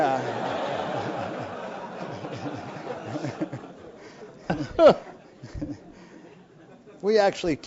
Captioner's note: laugh